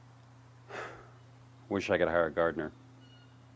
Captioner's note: sighs